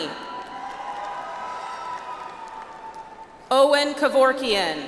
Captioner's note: audience applauds